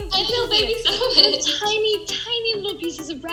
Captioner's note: laughing